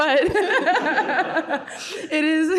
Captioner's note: laughs